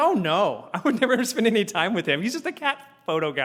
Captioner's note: laugh